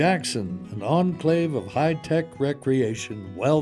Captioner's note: voiceover